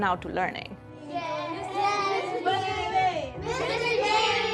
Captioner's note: children chattering